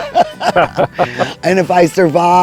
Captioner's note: both laughing